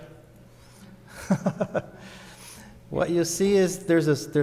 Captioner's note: laughs